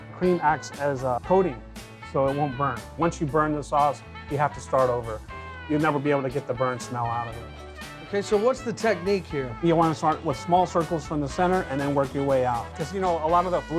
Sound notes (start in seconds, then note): none